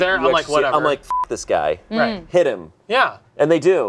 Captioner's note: beep